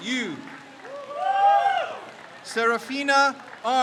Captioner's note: crowd cheers